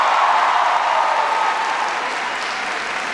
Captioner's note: applause